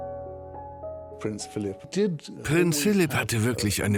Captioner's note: voiceover